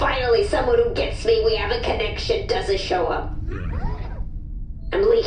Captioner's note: sympathetically; head whirring